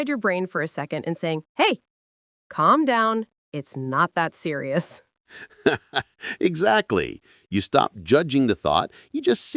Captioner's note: laughs